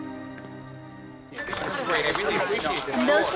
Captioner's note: indistinct chatter